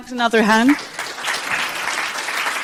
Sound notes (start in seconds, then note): 0.4 audience applauding